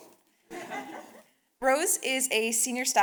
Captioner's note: audience laughing